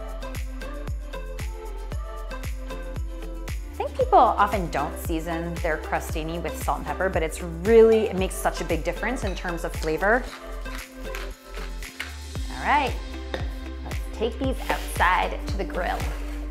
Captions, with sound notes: (upbeat music) I think People often don't season their Crostini with salt and pepper, but it makes such a big difference in terms of flavor. (grinding) All right, let's take these outside to the grill.